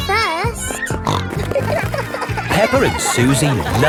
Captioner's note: snorting